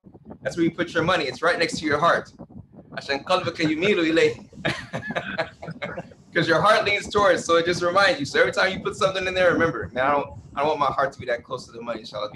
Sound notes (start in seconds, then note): 4.6 laughter